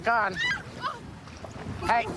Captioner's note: screaming